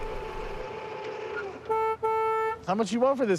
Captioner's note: two honks